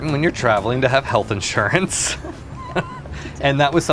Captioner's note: laughs